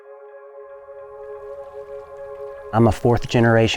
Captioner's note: gentle music; water flowing